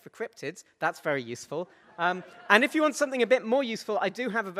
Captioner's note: audience laughs